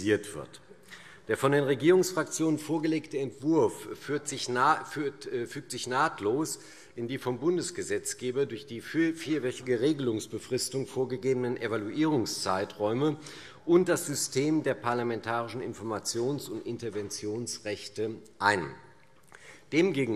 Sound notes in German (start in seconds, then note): none